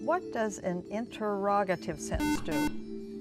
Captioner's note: buzzer